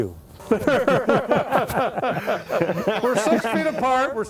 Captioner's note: laughter